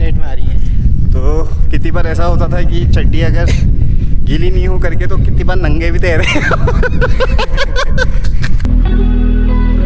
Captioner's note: laughs